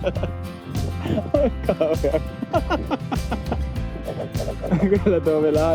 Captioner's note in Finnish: naurua